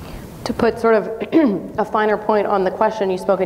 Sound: clears throat

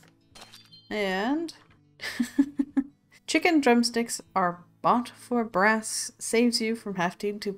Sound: laughs

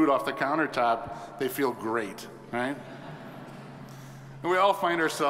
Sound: audience chuckles

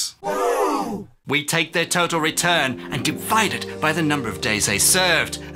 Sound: gasps

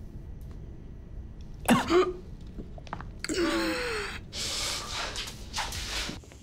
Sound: coughs and gasps for air

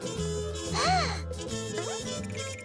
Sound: upbeat jazzy music; gasps

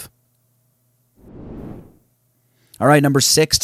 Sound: swooshes

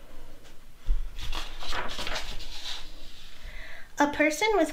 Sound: page flips

